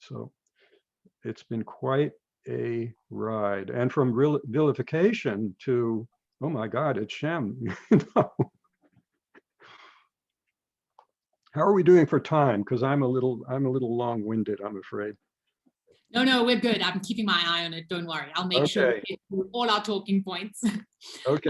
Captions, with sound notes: So it's been quite a ride and from vilification to, "Oh my God, it's Shem." (laughs) How are we doing for time? 'Cause I'm a little long winded I'm afraid. - No, no, we're good I'm keeping my eye on it don't worry. I'll make sure we get through all our talking points.